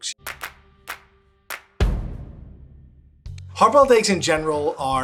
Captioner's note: hands clapping